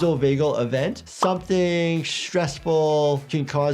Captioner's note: image pops